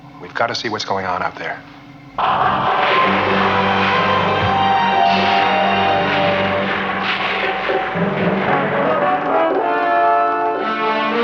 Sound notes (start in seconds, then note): 1.8 música de suspense; 2.2 estouro; 8.1 música dramática